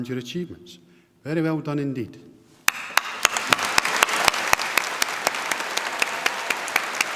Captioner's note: applause